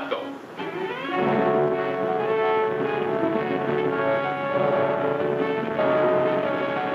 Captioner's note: boat hums; dramatic music